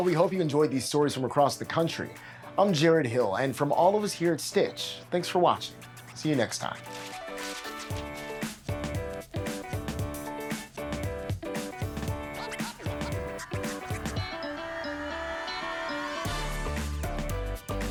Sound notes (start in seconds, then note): 6.5 paper rustling; 8.6 uptempo music plays